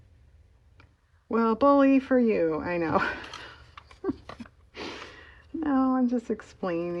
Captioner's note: laughs